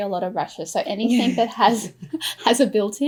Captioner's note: laughs